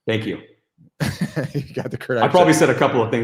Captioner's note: laughs